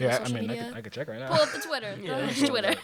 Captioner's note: laughter